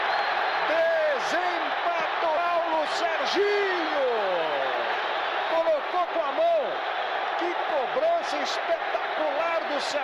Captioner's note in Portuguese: aplausos